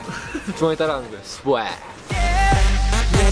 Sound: giggle

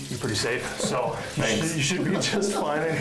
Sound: laughing

